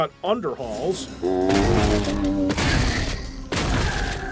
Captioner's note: zombie groan